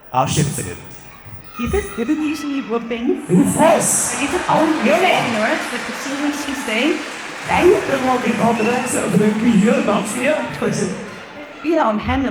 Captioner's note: friendly bantering